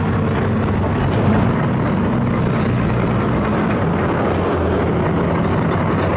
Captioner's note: engine Rev